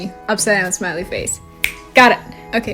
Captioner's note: snaps fingers